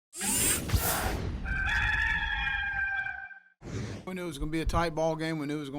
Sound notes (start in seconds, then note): 0.2 mechanical noise; 1.4 rooster crowing